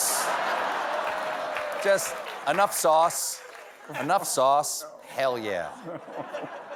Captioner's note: laughter